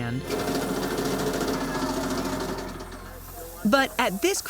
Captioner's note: vibrating sounds